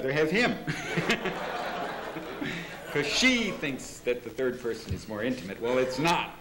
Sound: laughter

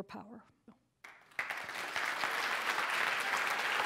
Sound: applause

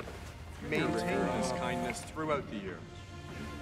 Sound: Alison's phone buzzes

